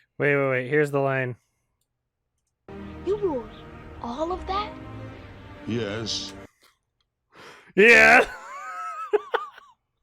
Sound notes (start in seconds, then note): 7.8 laughs; 8.0 mockingly